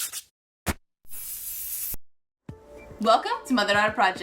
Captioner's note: spray paint bottle spraying